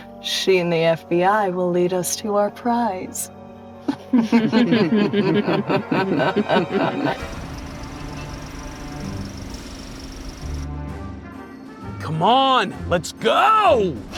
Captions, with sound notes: She and the FBI will lead us to our prize. (creepy evil laughter) Come on, let's go!